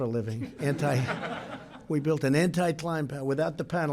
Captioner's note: laughter